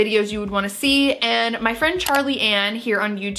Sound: mouse clicks

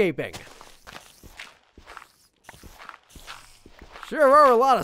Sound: spiders squeaking

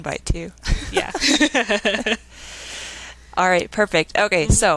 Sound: laughing

